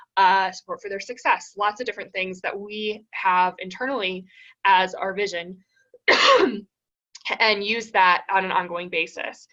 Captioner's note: cough